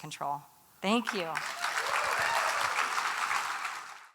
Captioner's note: applause and cheers